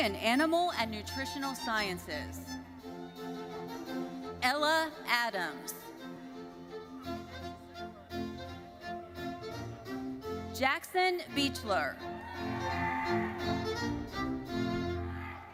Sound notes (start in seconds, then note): 12.1 audience cheering